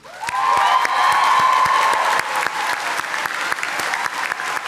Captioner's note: audience applauding